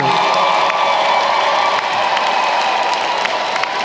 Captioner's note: applause